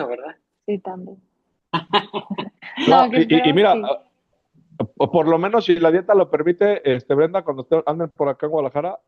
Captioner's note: risas